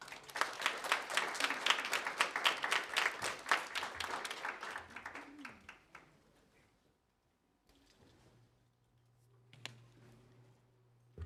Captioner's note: applause